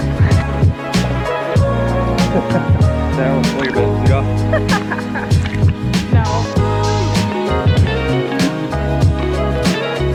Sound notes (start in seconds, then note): 2.1 laughs; 7.3 upbeat music